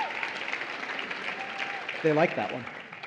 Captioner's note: applause